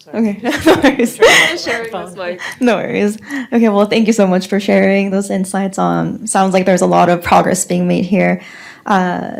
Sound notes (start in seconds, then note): 0.4 laughs